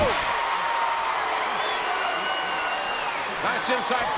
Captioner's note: crowd cheers and whistles